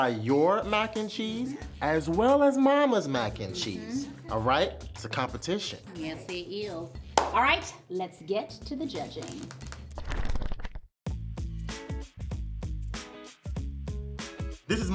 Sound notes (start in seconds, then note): 7.0 hands clap; 9.2 pages flipping; 11.1 relaxed guitar music